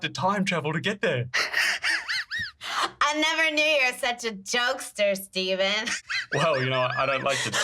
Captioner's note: laugh cries